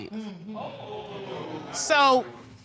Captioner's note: audience cringe